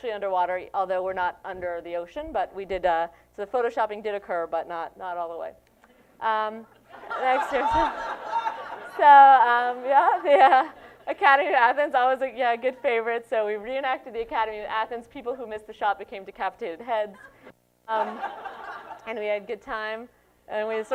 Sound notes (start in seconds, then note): 6.8 laughter